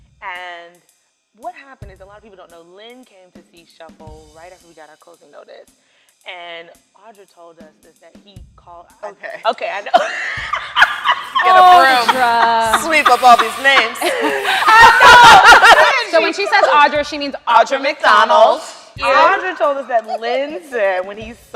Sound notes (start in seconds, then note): 11.6 laughter